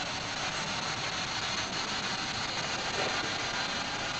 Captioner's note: radio static